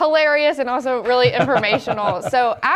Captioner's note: laugh